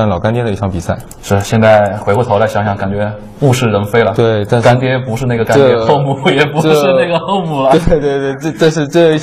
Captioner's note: laughs morosely